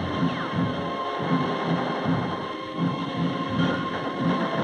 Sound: gunfire; dramatic music

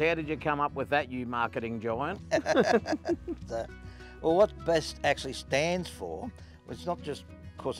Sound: laughs

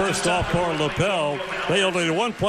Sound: cheering

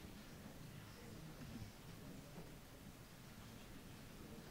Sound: soft crowd murmuring

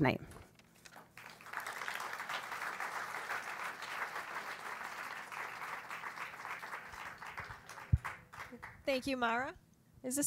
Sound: applause

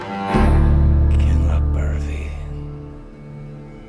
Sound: Whisper: Kinlochbervie

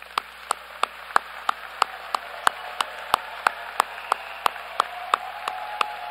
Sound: applause

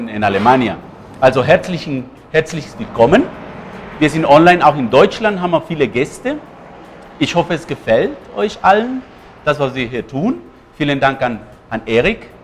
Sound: speaks in german

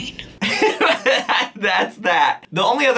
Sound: laughing

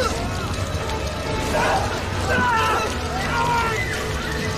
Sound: all scream

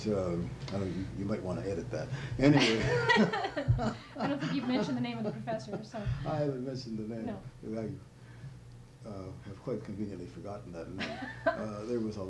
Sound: laughter

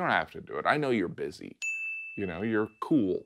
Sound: bell rings

